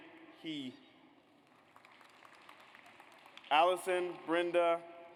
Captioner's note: audience applauds